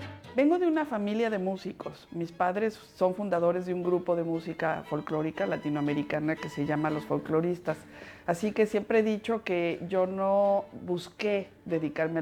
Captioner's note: speaking Spanish